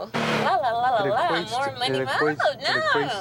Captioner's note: hums